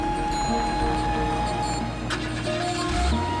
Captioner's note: engine turns over